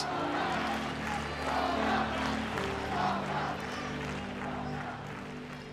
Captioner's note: indistinct chanting